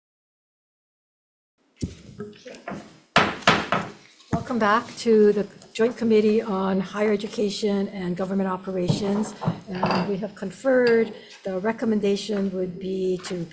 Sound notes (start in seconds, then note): 3.2 gavel taps